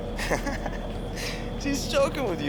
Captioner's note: laughs